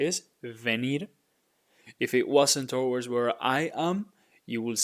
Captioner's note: speaking in Spanish